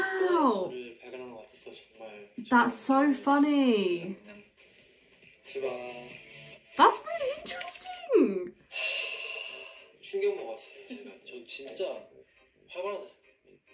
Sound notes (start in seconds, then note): 8.8 deep sigh